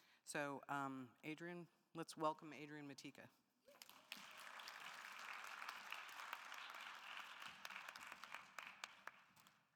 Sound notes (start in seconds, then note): 3.7 audience applauding